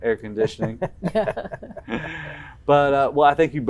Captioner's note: group laughing